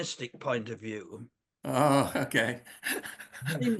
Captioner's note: laughs